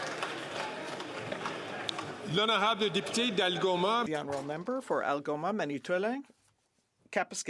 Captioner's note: some Applause